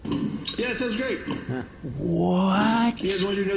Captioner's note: over intercom